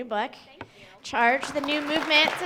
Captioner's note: audience applauds